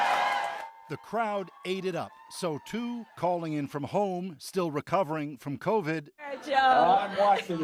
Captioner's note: applause